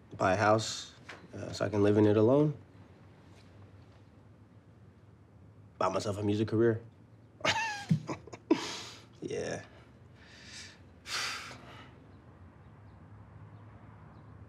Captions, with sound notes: buy a house so I can live in it alone? Buy myself a music career? (laughs) Yeah. (sighs)